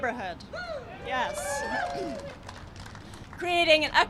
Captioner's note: cheering and applause